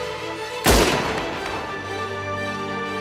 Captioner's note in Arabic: صوت البندقية